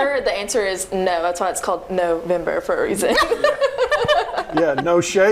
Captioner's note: laughing